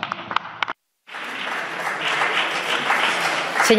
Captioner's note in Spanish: Aplausos